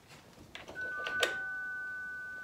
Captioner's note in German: Klingel